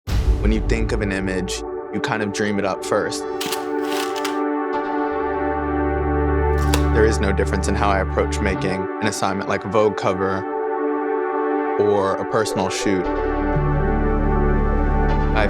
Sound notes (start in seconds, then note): 3.4 camera shutter; 5.2 ambient music